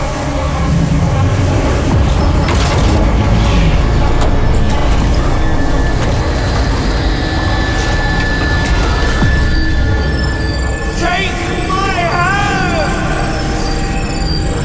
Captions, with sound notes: [doors clanks] Take my hand!